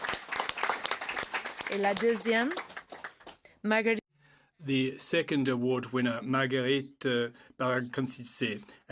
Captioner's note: applause